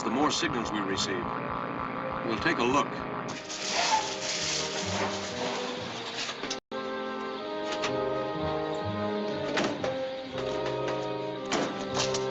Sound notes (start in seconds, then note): 2.1 brakes squealing